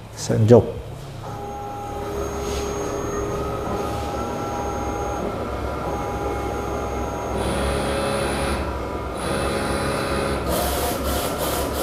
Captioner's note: printer machine noise